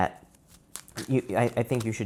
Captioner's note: cards shuffling